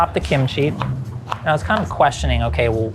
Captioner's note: knife thudding